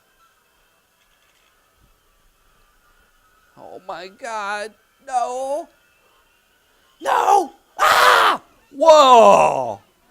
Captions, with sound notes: Oh my God, no. No! (screams) Whoa!